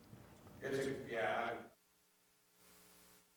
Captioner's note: away from the mic